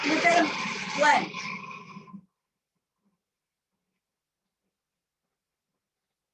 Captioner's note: blender whirring